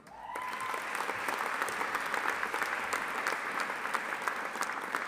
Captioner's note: audience applauding